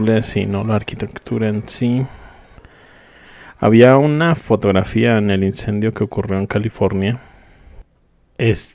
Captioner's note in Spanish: suspiro